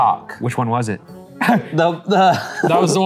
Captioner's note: laughing